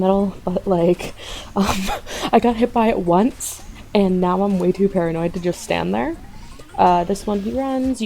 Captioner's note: huff